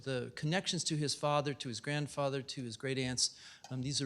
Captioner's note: none